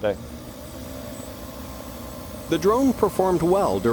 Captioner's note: drone buzzing